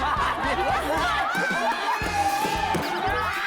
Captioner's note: agh!